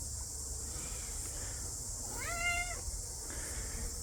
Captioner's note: cat Meows